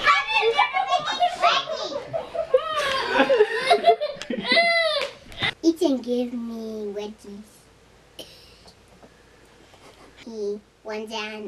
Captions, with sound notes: Ethan give me... wedgies. [laughs] He runs and